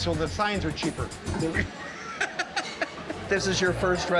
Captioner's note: laughter